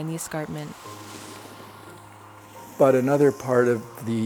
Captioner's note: skis through snow